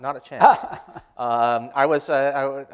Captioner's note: laughs